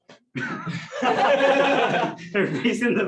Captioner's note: laughter